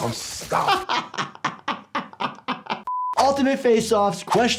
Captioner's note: laughing